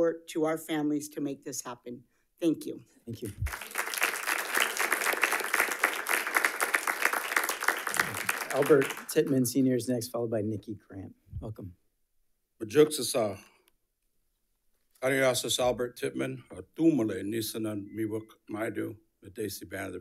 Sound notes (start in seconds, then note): 3.4 audience applauding; 13.5 speaking foreign language